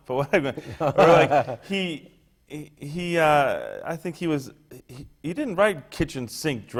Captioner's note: laughter